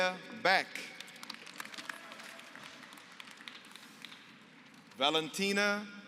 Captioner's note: applause